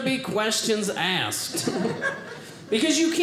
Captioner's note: audience laughing